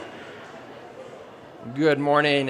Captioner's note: audience chatting off microphone